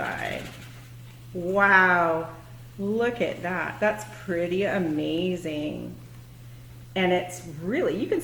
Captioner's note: balloon is inflated